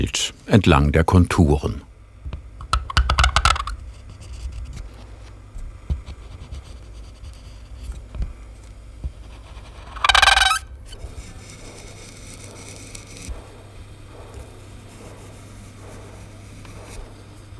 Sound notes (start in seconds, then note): 2.6 creaking; 9.6 squeaking